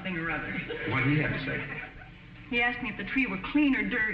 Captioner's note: audience snickering